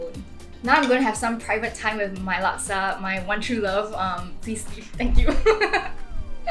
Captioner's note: laughs